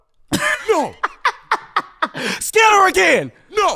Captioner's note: laughing